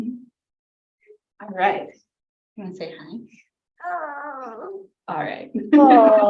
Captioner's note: baby cooing